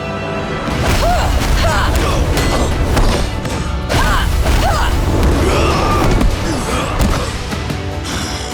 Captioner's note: grunting